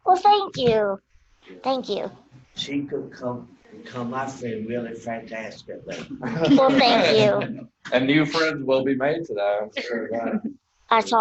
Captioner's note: laughter